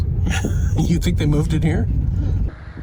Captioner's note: snickering